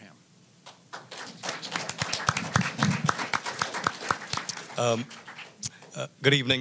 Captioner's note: applause